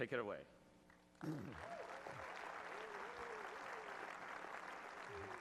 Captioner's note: audience applauds